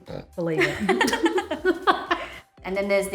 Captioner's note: laughter